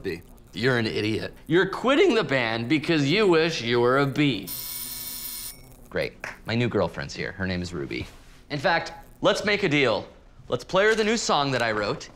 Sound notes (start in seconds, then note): 4.4 doorbell buzzes